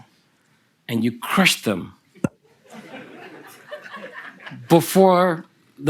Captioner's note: laughter from the audience